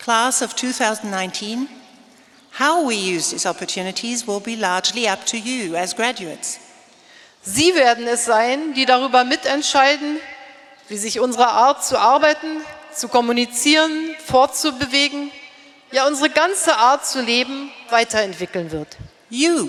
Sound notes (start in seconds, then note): 7.5 speaking in German